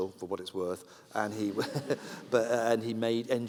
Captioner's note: laughter